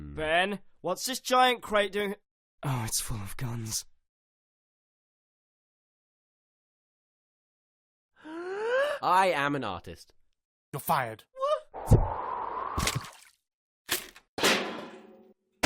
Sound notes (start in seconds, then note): 8.2 gasp